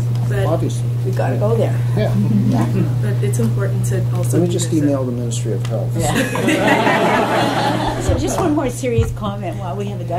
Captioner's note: laughter